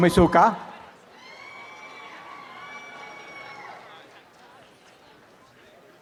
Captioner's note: applause and cheering